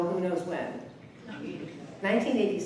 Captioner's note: audience mumbles